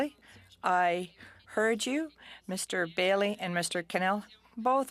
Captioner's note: speaking French